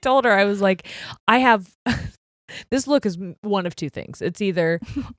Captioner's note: chuckles